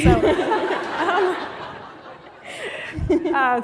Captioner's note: laughter